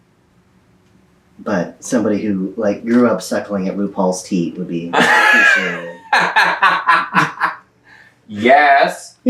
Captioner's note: laughter